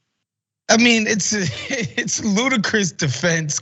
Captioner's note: laugh